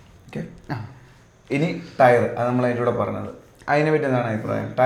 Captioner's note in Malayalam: തൊണ്ട ശരിയാക്കുന്നു